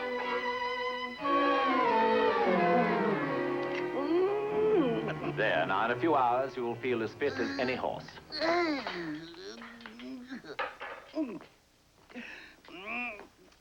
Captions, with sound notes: [ Groaning ] THERE. IN A FEW HOURS, YOU WILL FEEL AS FIT AS ANY HORSE. [ Groaning ]